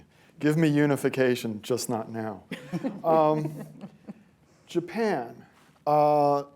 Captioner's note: laughter